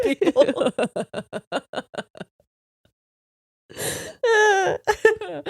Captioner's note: laughing